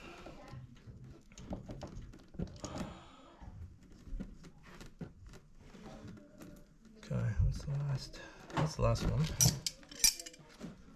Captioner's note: clattering